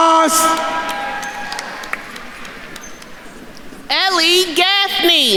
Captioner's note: attendees cheering